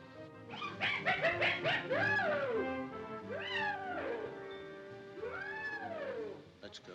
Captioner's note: animal squawking; ominous music